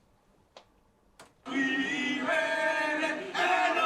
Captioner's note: chanting